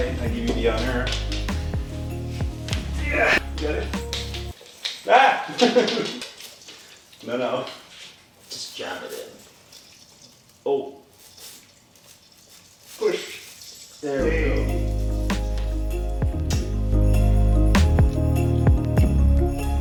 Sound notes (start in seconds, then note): 5.5 laughing; 14.2 upbeat music